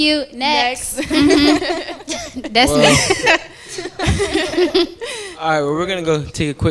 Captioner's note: laughter